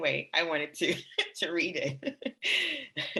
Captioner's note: laughs; laughs